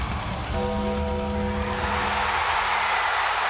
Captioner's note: bell tolls; crowd cheers